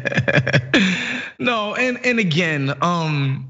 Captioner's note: laugh